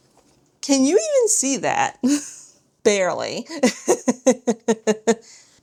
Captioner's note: laughs